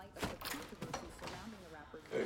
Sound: clanging

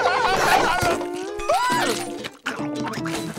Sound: squealing

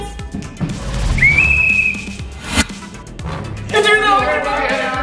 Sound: blowing a whistle

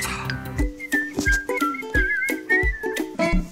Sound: whistling

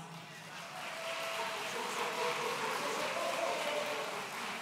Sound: audience cheering

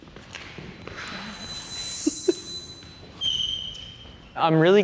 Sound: laughing

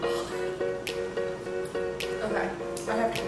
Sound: rhythmic snapping music; wheezes

